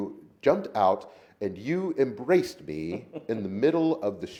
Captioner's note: laughs